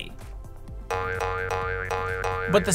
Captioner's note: boing Noises